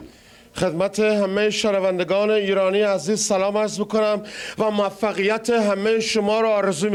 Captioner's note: Iron Sheik speaking in foreign language